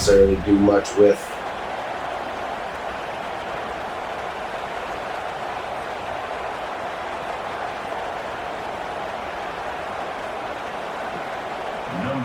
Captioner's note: crowd Noises